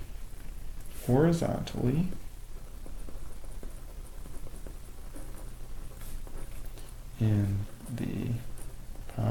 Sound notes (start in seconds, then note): 2.4 writing Sounds